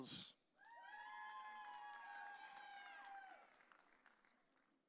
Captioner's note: audience cheering